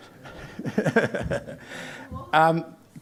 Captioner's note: chuckles